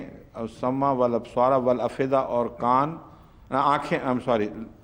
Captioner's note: Arabic